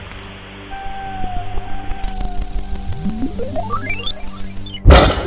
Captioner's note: digital chiming